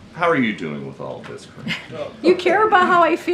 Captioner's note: laughter